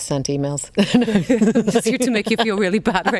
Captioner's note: both laughing